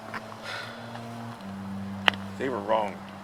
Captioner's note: ninja sighs